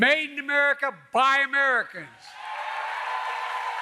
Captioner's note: applause